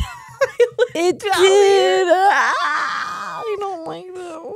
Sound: screams

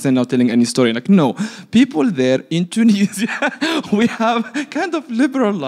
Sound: laughs

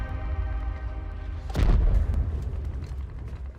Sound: distant explosion blasts

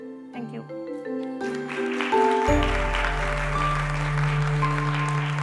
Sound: applause

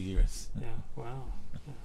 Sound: laughs

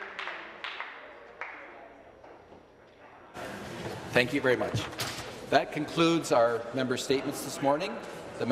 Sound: some Applause

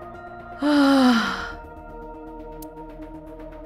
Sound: exhales

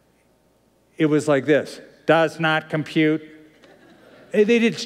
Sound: robotic voice; laughter

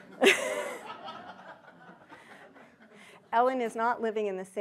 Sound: audience laughing

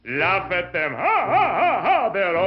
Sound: laughing

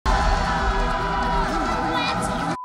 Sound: angels yell; beep

